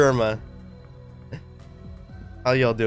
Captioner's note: chuckles